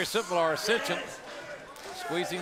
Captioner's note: crowd chatter